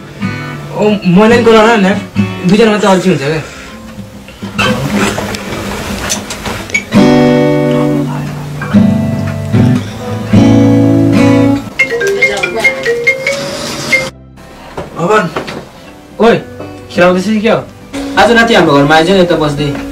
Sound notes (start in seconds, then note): 8.6 soft music; 11.7 ringing phone